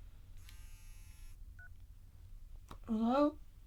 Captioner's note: phone beeps